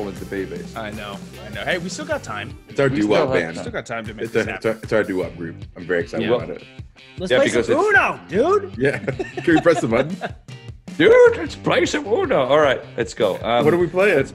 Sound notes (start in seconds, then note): 8.8 laugh